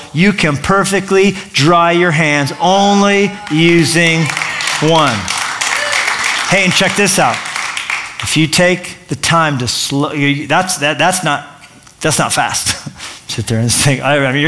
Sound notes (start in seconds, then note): 5.7 applause